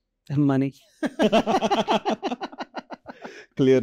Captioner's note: laughter